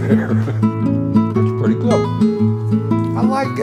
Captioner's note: laughing